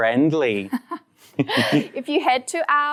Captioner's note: both laugh